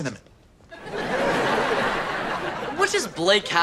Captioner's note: audience laughter